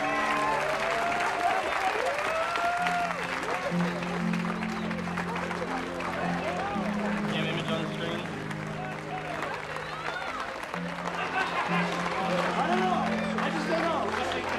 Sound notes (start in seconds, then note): 13.3 crowd cheering